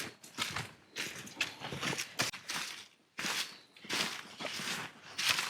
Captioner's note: leaves crunching